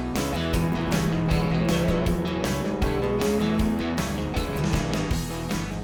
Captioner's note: car engine roaring